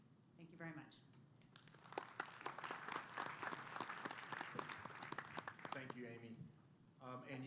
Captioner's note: applause